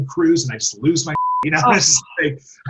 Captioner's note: beep